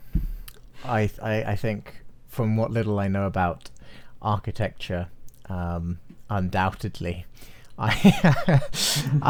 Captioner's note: laughs